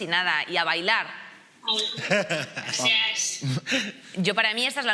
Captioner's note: laughter